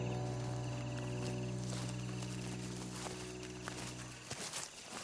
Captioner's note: crickets; steps approaching